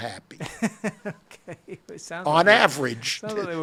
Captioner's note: laughs